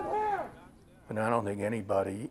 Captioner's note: overlapping shouting